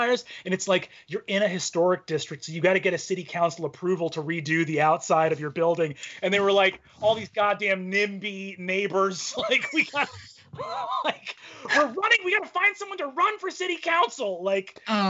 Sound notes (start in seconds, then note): 9.1 laughing